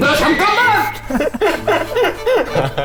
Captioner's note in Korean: 깔깔깔